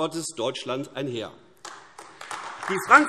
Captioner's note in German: Beifall AfD